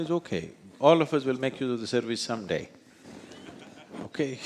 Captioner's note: few Laugh